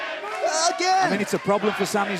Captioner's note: fans chanting